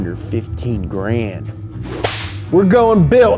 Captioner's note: whip cracking